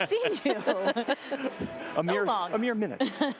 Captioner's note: laughter